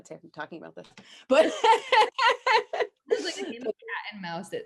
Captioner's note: both laughing